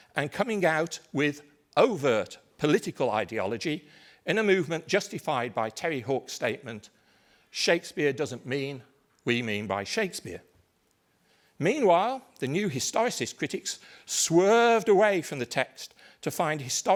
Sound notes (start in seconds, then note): none